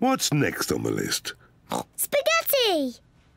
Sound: oinks

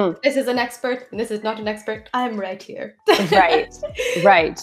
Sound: laughs

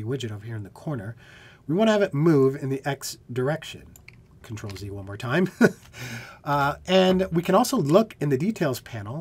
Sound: laughter

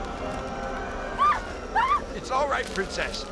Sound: Princess Vara screams

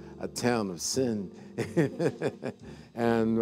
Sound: laughing

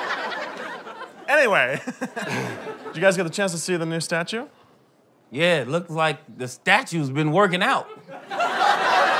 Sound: laughter

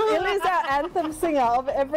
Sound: laughs

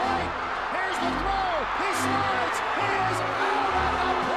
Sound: old fashioned radio announcer

